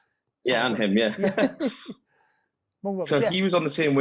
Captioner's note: both chuckle